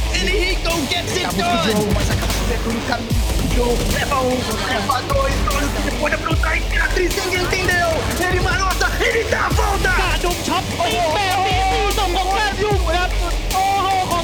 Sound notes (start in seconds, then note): 3.0 speaking foreign language